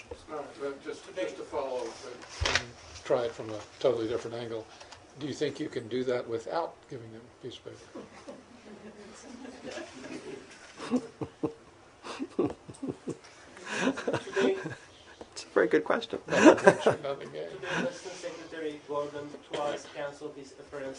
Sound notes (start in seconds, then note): 7.9 laughter; 13.6 laughter